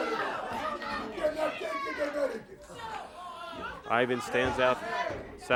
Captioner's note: crowd cheers